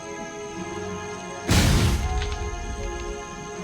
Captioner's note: tense Music; explosion